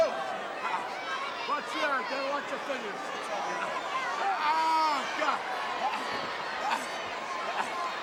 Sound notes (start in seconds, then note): 4.3 wrestlers grunting